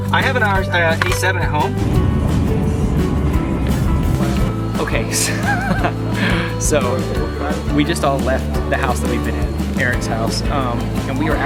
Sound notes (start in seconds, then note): 5.4 laughs